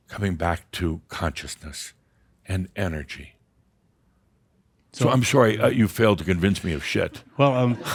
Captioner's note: some chuckles